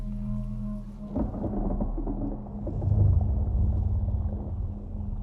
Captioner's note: odd ambience